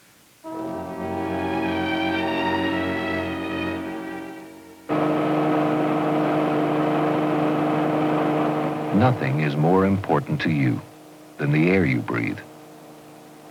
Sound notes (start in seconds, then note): 0.5 dramatic music; 4.4 hospital equipment whirs